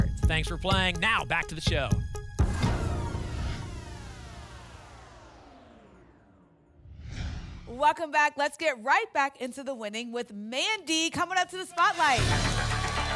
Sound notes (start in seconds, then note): 2.4 phaser sound; 6.7 whoosh